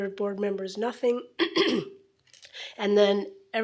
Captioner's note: clears throat